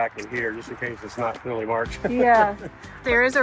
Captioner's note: laughs